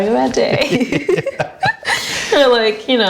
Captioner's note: laughing